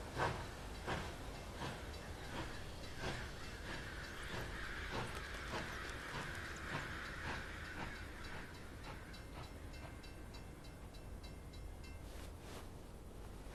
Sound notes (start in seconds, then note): 4.9 crows cawing